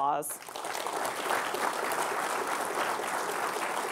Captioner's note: audience clapping